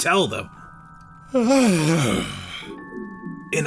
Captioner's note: yawning